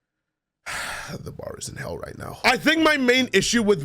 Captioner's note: sigh